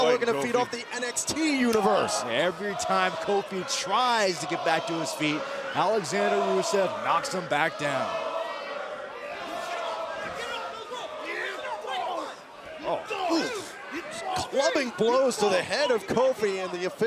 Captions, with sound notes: >> KEEP GOING, KOFI. >> NOW LOOKING TO FEED OFF THE NXT UNIVERSE. >> EVERY TIME KOFI TRIES TO GET BACK TO HIS FEET, ALEXANDER RUSEV KNOCKS HIM BACK DOWN. >> [CROWD CHEERING] >> GET HIM OFF, MAN. THAT'S ENOUGH. BREAK. ONE... >> ...TWO... >> CLUBBING BLOWS TO THE HEAD OF KOFI AND THE OFFICIAL FINALLY